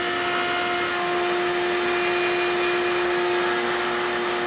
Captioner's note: tool whirring